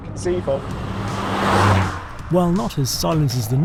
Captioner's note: car roaring